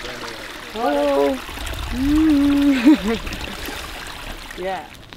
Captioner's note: laughter